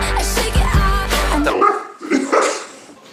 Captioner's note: shrieking noises